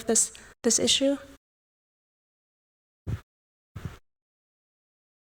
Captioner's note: audio out